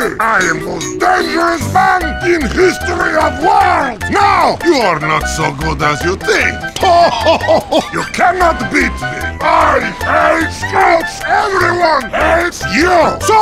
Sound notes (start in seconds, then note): 6.8 mimicking Scout, laughter; 9.4 mimicking Soldier, angry